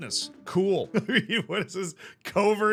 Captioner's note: laughs